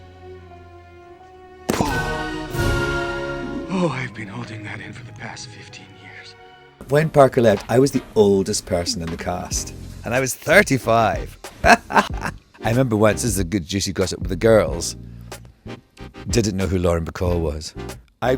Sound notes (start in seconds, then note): 2.0 dramatic music; 11.6 laughs